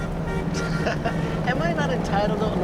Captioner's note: laughs